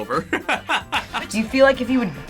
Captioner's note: laughs